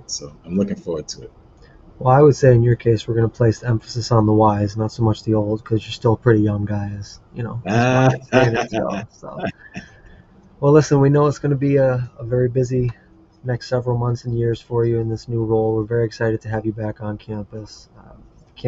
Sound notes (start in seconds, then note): 7.6 laughs